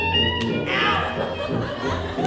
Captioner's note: hand smacks; audience laughs